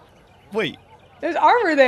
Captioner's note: laughs